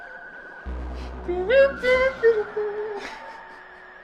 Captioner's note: hums